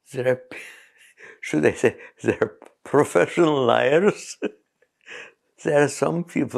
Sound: laughs

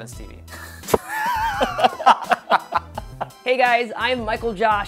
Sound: both laughing

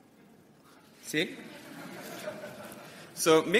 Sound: laughter

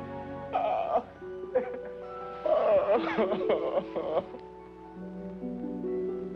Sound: David crying

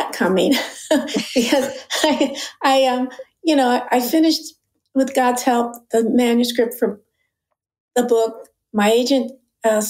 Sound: chuckle

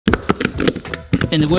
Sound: potatoes thudding

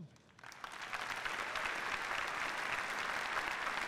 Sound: applause

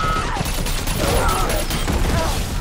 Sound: Perez screaming; guns firing

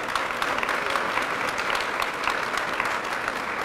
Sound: applause

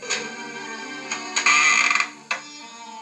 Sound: instrumental Music; creak

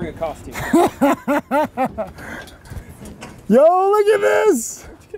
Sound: laughing

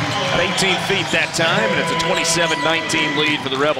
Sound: voiceover

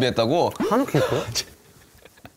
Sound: cracks up

